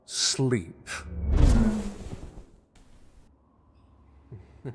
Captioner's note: sounds of fading warp and listener collapsing; fading laughter